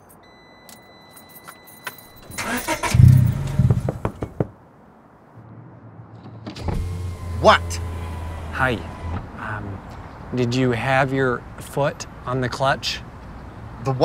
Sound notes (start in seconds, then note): 0.1 beeping; 2.3 engine starts, then stops; 3.6 knock, knock, knock; 6.5 window rolling down